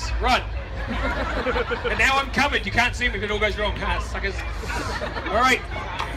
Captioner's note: crowd laughs; crowd laughs